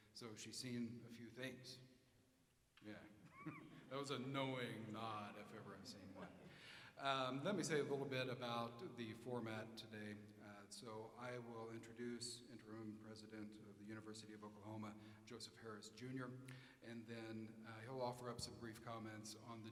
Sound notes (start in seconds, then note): 3.2 chuckles